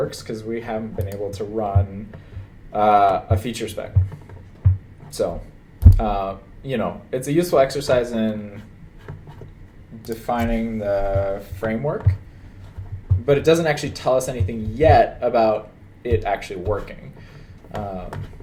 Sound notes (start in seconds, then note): none